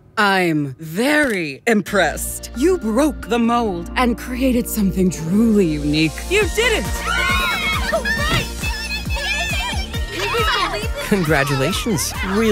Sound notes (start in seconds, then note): 6.8 group cheering